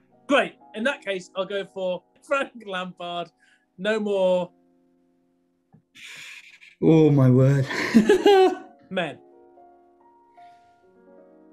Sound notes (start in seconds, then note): 6.0 sucks in air through teeth; 7.5 laughing